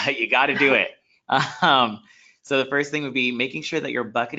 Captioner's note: laughs